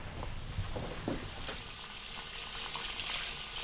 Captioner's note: water rushing